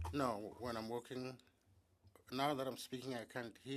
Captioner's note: speaking French